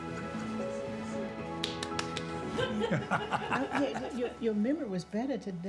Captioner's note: laughing